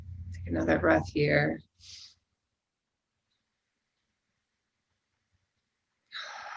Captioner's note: breathing deeply